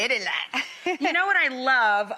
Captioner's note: chuckles